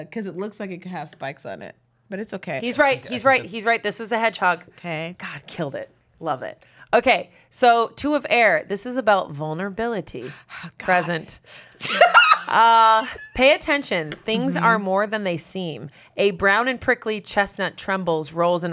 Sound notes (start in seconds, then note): 11.9 laughs